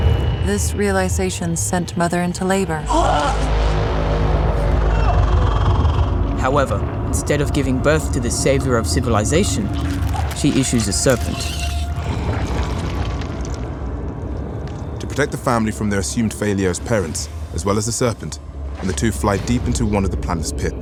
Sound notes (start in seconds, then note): 2.6 gasping painfully